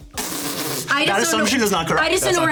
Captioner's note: laughing